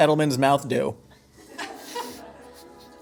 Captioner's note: laughing